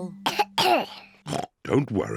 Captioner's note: coughs; oinks